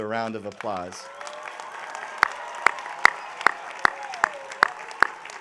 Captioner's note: audience applauding